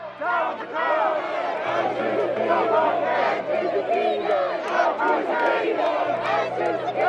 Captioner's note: chanting